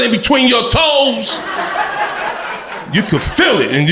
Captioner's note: crowd laughter